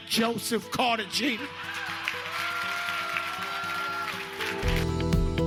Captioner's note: cheers and applause